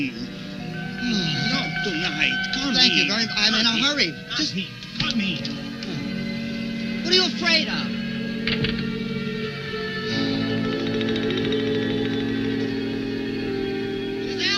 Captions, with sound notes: Not tonight, come in. - Thank you, I'm in a hurry. - Come in, come in. - What are you afraid of? (door closing) (dramatic music) Giselle!